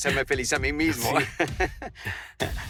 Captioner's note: laughs